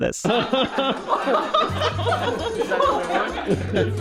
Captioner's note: all laughing